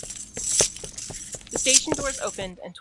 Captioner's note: sound of footsteps and clinking chains